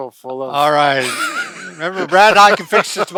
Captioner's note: laughing